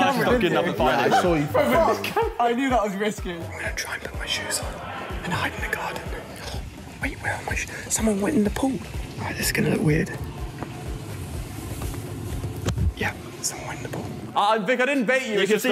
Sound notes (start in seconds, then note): 0.1 laughter; 6.3 gasps